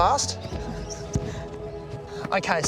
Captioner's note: chuckles